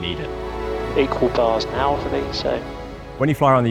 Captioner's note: pilot faintly speaking